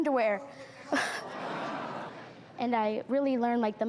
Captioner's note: crowd awes